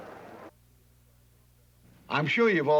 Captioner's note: none